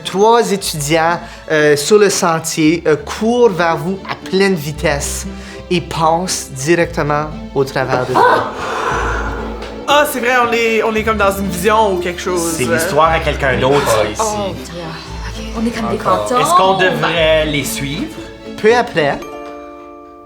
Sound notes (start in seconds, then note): 7.8 moving air